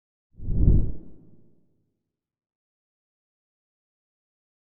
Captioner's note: graphics whooshing